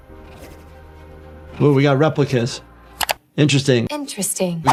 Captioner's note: dramatic music; screen clicking